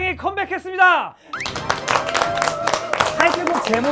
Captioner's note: clap clap clap